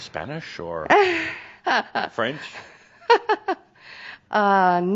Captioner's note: she chuckles